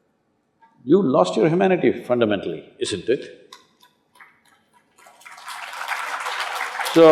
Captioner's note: applause